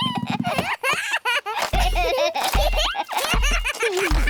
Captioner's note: both giggling